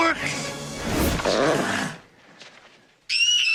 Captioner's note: E.T. croaking; little girl screaming